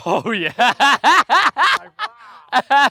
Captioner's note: laughs